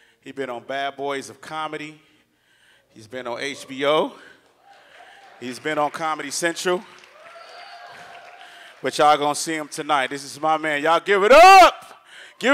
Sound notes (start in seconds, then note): 4.4 audience applauds